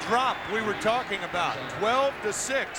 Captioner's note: cheers and applause